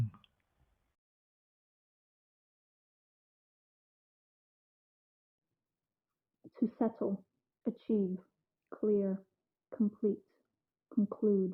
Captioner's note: female voice speaking distorted by the 'lowpass' distortion